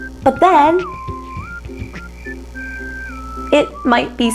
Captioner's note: crickets chirping